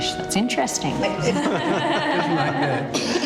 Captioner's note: laughs